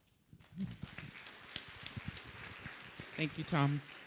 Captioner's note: audience applauding